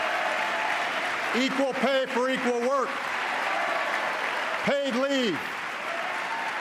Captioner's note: applause